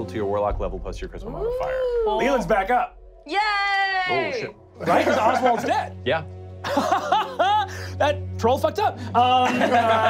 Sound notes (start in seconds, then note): 6.6 laughing